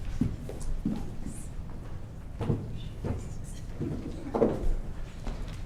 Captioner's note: speaking faintly